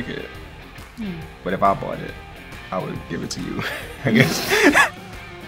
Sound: laughs

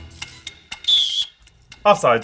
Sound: whistle blowing

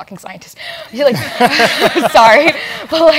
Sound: laugh

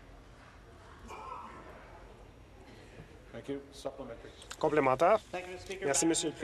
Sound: chatter

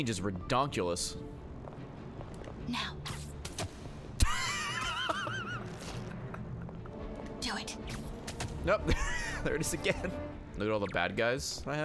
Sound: laughs

